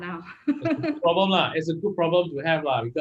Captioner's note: laughs